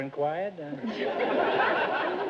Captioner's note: audience laughter